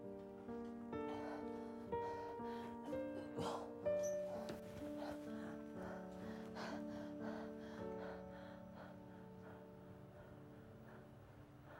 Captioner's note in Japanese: 荒い息遣い